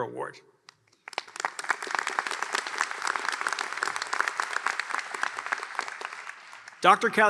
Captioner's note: applause